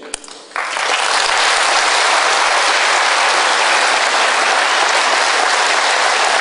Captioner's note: applause